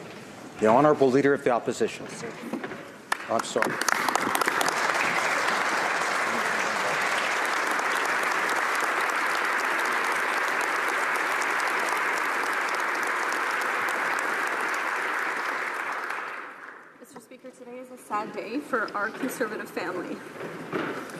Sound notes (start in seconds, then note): 4.7 some Applause